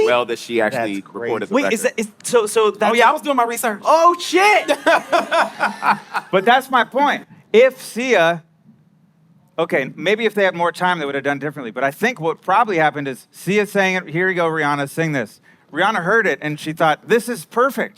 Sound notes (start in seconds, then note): 4.6 laughing